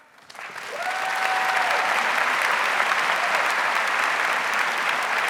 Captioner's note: audience cheers and applauds